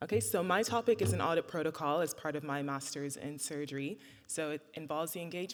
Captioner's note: none